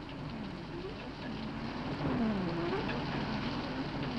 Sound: car engine whirs

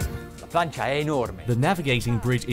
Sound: mid-tempo electronic music; speaks in foreign language

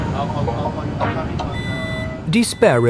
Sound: beeps

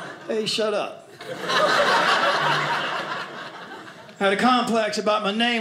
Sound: audience laughing

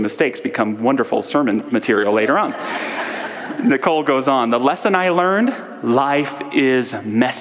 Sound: audience laughter

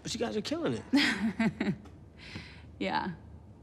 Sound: Jane chuckles

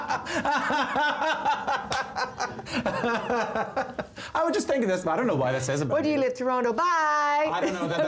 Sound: laughter

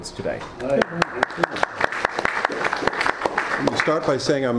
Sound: all applauding

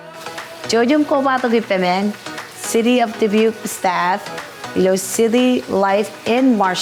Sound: speaker speaking in foreign language

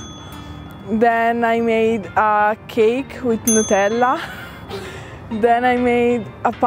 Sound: chuckles

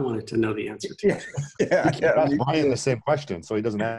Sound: laughing

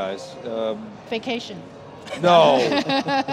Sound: laughs

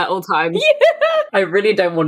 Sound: laughing

